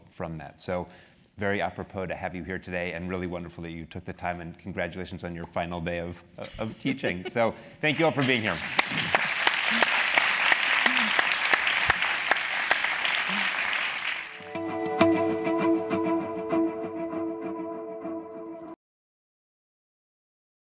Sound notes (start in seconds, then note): 9.4 applause